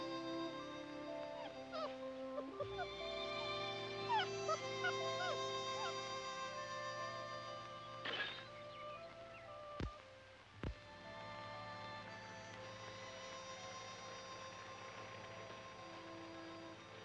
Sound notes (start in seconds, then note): 2.2 puppies whimpering; 8.3 glass shattering; 10.3 gentle music